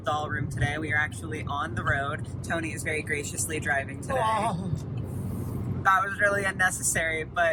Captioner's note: moans